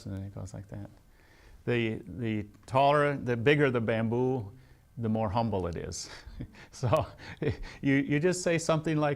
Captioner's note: laughs